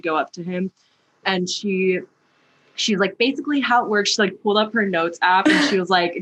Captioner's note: laughter